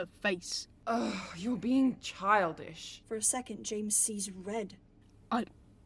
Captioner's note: Regulus exasperatedly sighs